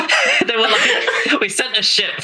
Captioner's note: laughing